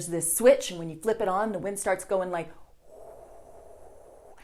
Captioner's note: wind noises